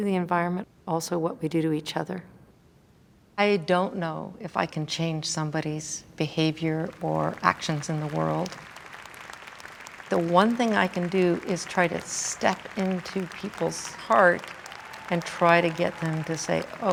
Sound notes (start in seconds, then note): 8.4 audience applauding